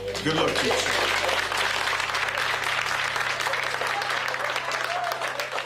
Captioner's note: audience applause